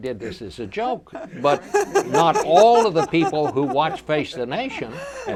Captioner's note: laughs